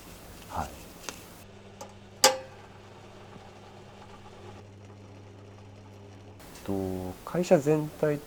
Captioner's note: sound of leather crafting